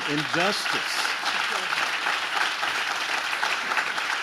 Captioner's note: audience claps